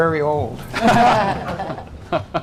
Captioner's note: laughter